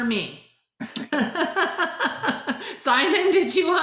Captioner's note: laughs